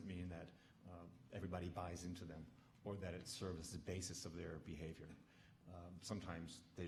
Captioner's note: none